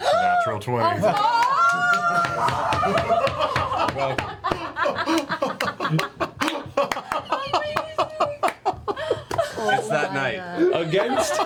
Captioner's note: cheering